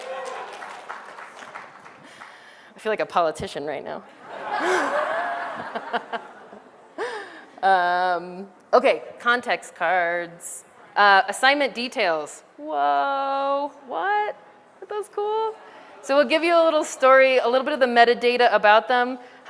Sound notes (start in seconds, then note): 6.8 laughter